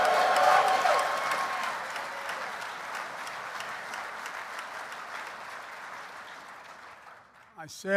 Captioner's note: applause